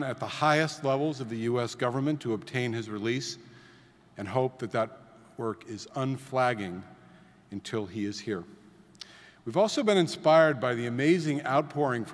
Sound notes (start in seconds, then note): none